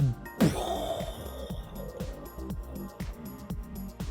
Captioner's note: pow